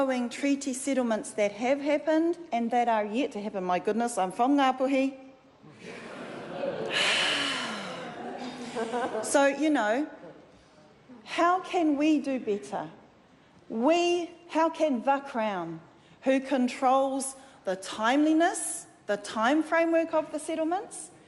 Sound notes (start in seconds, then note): 6.9 sigh; 7.9 laughter